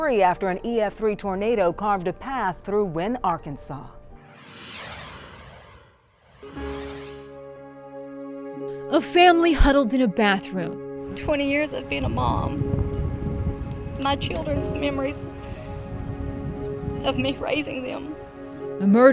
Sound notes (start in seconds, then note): 4.2 screen whooshes